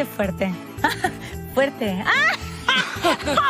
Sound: he laughs; he laughs

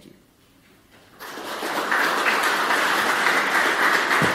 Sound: applause

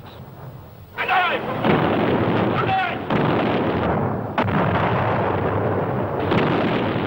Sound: canons booming; yelling in foreign language

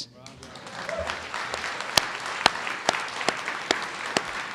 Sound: audience applauds

